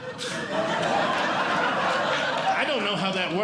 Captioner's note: audience Laughing; blows